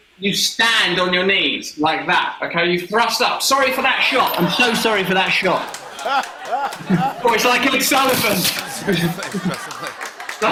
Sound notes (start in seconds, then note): 5.8 laughter